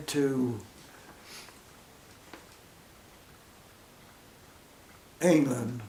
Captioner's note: silence